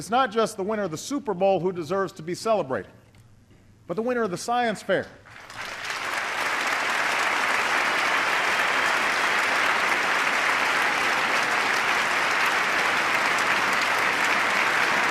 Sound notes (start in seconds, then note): 9.7 applause